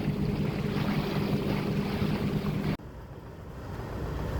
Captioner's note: boat engine roaring